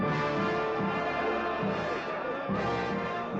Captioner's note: people chattering